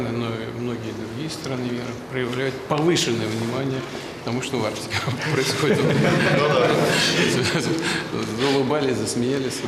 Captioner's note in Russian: Смех